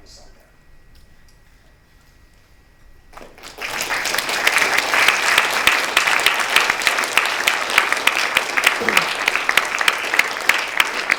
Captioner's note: applause